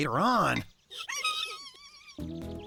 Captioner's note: excited Squeaking